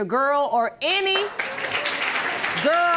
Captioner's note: audience applauding